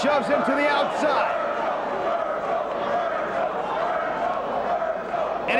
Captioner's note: crowd chanting